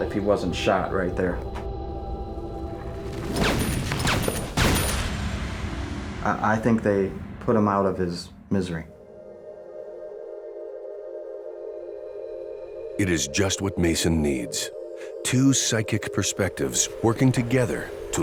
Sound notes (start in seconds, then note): 2.0 slow eerie music; 3.3 gun firing; 10.4 slow eerie music